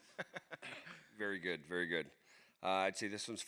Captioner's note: laughs